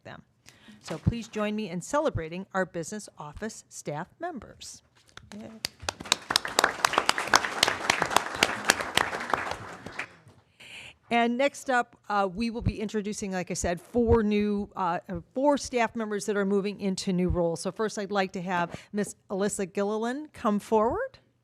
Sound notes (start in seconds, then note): 5.6 applause